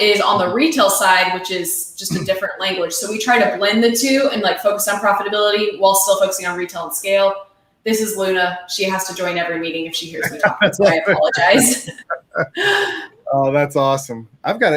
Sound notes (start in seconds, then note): 10.0 laughing